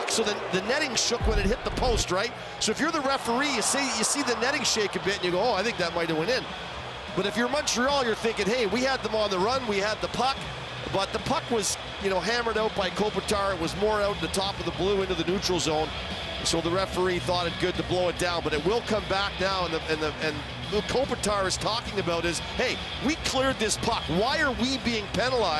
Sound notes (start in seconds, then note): 10.3 booing